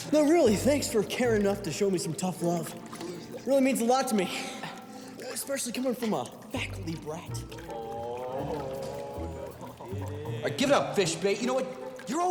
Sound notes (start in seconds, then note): 8.8 boys laugh quietly